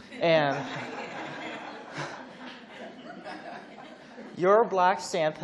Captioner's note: laughs